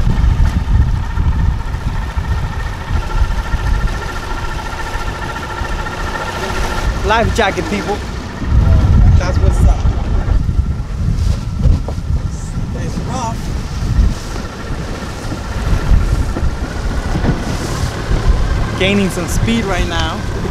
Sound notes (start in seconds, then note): 0.2 engine humming; 0.2 water plashing; 17.1 motor whirring